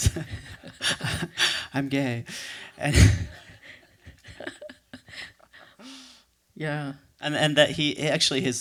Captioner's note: laughs